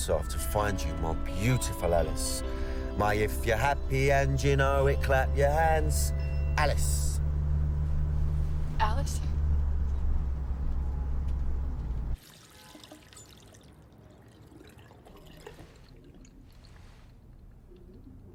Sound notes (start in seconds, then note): 12.0 faucet running